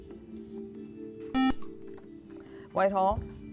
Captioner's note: beep